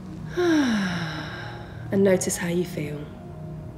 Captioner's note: heavy breathing